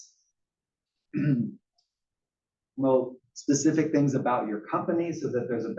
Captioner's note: cough